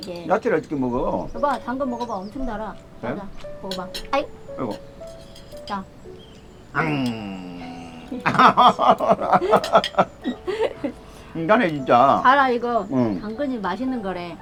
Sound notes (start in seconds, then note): 8.3 both laughing